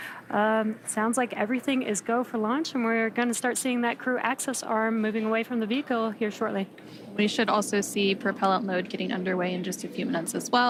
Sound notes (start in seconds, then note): none